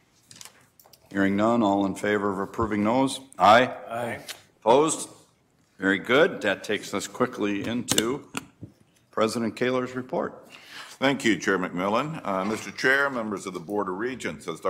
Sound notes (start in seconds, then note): 3.3 multiple voices